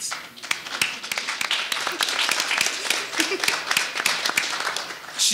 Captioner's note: audience applauding